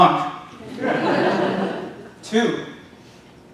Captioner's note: audience laughing